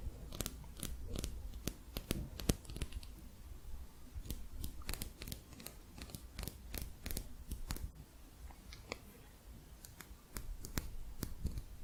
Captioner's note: quick tapping